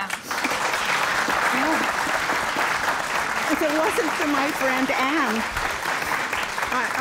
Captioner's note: applause